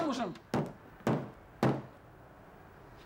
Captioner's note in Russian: Стук в дверь